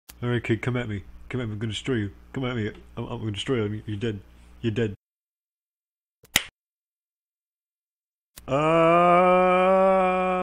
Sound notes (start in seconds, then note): 6.3 slap